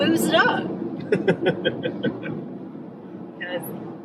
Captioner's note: laughing